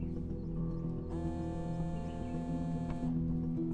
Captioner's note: Cell phone vibrating